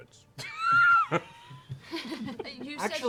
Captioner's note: laughter